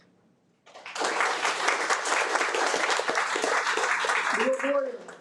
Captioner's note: audience applauding